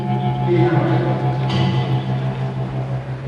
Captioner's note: talking in Burmese; hammering